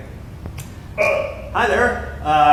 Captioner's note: Belch